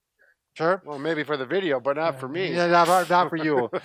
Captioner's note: laughs